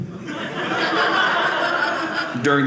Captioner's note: audience laughing